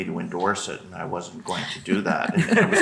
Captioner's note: group laughing